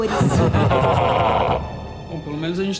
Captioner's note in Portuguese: Risada demoníaca